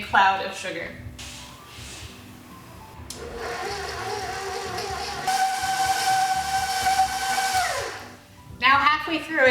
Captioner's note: pouring, blending